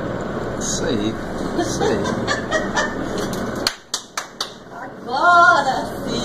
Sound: female voice laughs and claps…

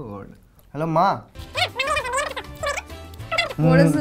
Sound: long Bengali conversation

